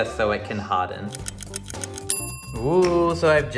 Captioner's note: clock ticking